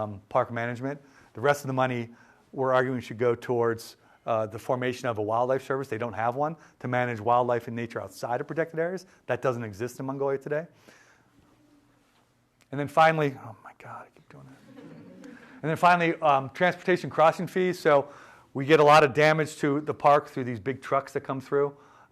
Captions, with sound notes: park management, the rest of the money, we're arguing, should go towards the formation of a wildlife service. They don't have one to manage wildlife in nature outside of protected areas. That doesn't exist in Mongolia today. And then finally— oh my God. [laughter] And then finally, transportation crossing fees. So we get a lot of damage to the park through these big trucks that come through